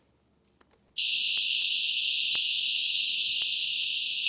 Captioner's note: whale songs